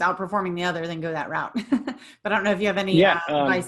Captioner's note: giggles